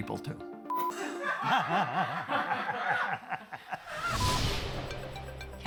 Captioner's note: laughs